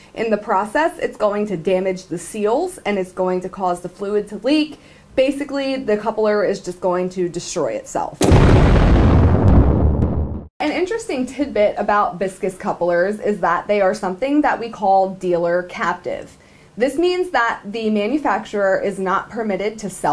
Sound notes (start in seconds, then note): 8.2 explosion noise